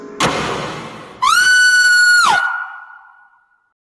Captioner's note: screams